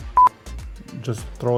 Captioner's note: screen beeps